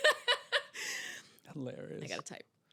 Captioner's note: laughing